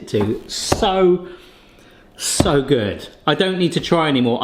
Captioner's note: banging counter